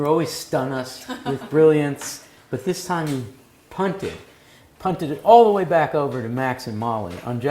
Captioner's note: laugh